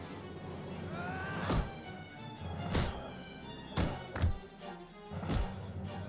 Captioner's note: dramatic music; screams